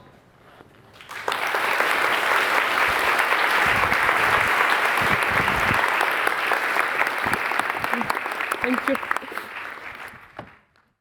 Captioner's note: applause